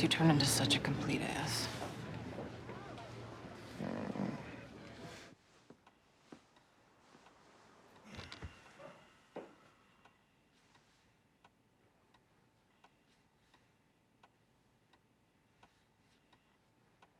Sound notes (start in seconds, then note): 3.6 groans